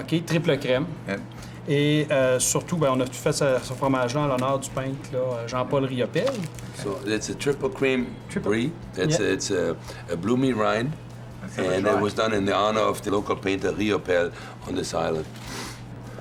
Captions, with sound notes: Triple creme. Yep. (CONTINUES IN FRENCH) So it's a triple-cream brie. It's a bloomy rind. And it was done in the honour of the local painter Riopelle on this island.